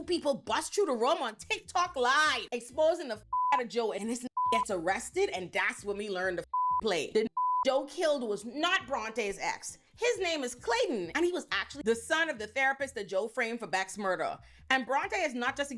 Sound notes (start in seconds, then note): 4.3 beep; 7.1 beep